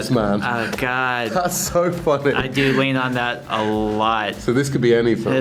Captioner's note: laughs